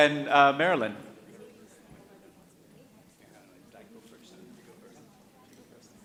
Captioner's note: people chattering